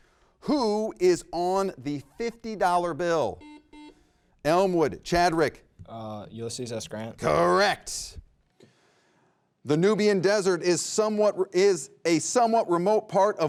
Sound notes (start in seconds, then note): 3.3 buzzer rings